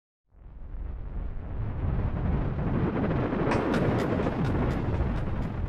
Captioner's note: electronic thunder sound